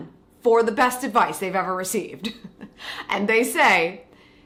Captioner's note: chuckles